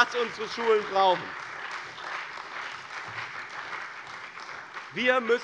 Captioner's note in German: Beifall bei dem BÜNDNIS 90/DIE GRÜNEN und der CDU